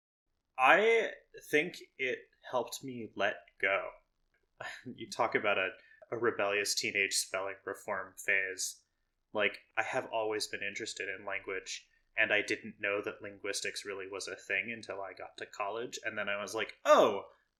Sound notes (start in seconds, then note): none